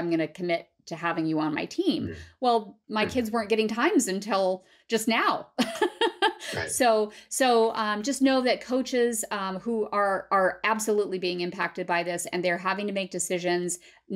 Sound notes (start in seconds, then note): 5.6 laughter